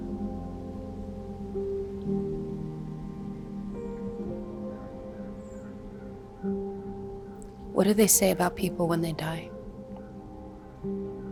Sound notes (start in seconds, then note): 4.7 crows cawing